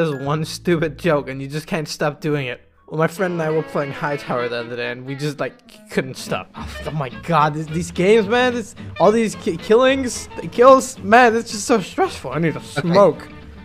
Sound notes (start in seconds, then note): 5.6 frustrated sigh